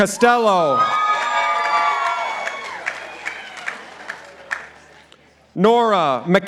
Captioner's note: participants applauding